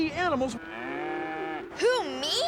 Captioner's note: mooing